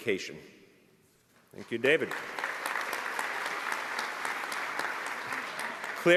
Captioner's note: applause